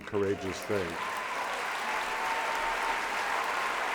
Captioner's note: applause